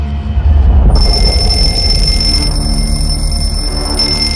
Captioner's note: alarm ringing